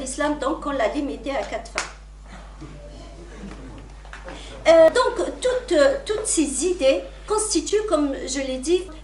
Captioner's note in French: raclement de gorge